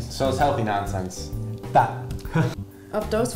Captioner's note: laughs